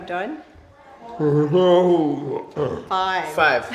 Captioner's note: responds with guttural sounds